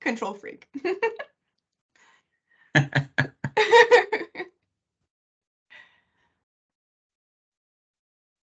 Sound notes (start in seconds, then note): 1.0 chuckling